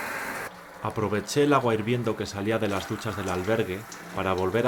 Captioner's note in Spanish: Voz en off